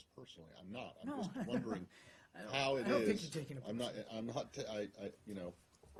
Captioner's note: laughter